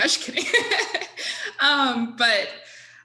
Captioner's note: laughing